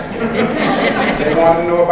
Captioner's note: audience laughs